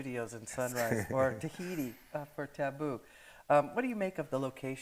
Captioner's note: chuckles